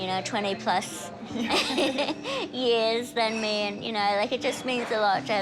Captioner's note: both laugh